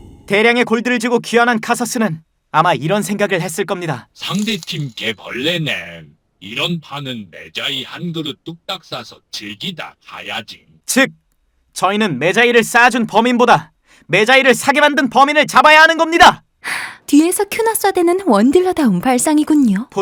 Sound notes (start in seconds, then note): 4.5 altered voice